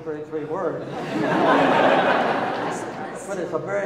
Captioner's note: audience laughing